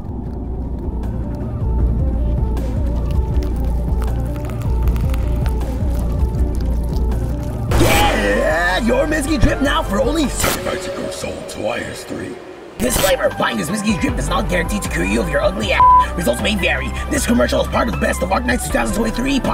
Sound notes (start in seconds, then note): 3.2 slithering noises